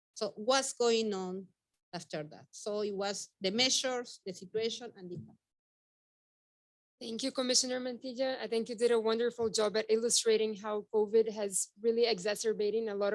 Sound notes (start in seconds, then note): 5.7 speaking faintly